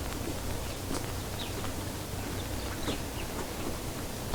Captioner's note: birds chirping